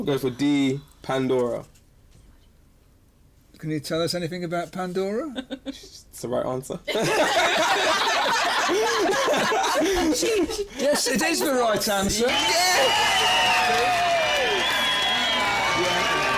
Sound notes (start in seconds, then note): 6.8 laughter; 12.2 cheers